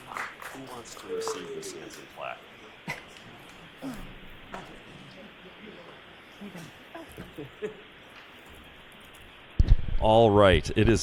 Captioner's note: applause